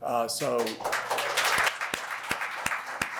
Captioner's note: applause